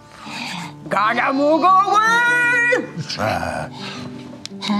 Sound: grunts excitedly

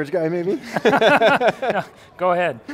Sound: both laugh

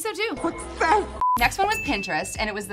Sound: beep; bell dings

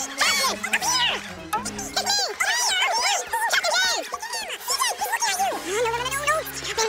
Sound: speaking fast forward

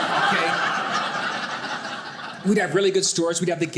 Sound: audience laughing

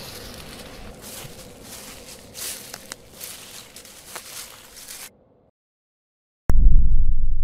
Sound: outside noise, walking through leaves

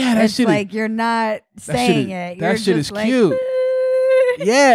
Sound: humming

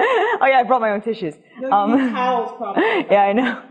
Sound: laugh

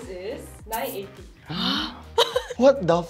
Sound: gasps

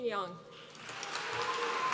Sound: applause

